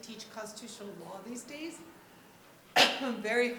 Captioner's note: coughs